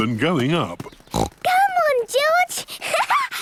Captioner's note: snorts; laughs